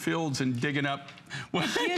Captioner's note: laughter